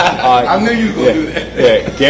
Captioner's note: laugh